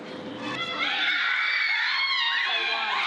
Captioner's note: girls scream